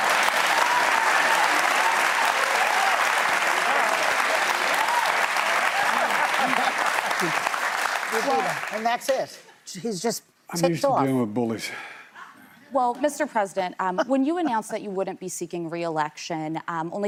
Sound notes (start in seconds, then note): 0.7 laughter; 6.2 cheers and applause